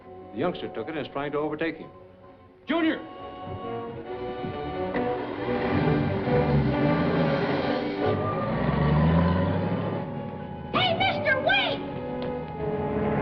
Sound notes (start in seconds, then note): 4.4 fast-paced music; 4.6 engine revving; 8.3 car accelerating